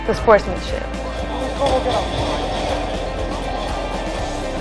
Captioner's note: crowd noise